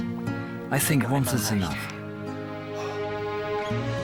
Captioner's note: in German